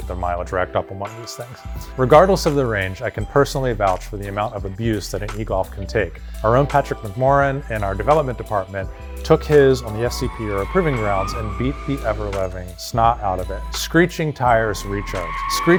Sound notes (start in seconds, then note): 9.2 tires squealing; 14.6 tires screeching